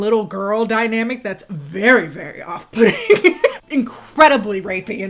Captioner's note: laughs